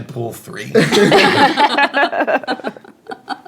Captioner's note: laughing